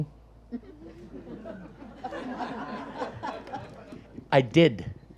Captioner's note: audience laughs